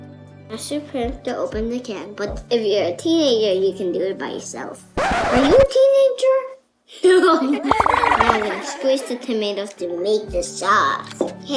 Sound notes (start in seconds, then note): 5.0 record scratching; 7.4 children laughing; 7.4 laughs; 7.5 bubbles popping